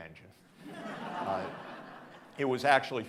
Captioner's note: audience laughing